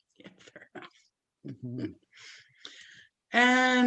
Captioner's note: whispering